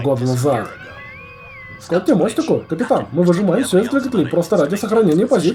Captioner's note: intercom whistles